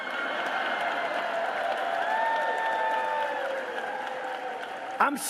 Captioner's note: cheering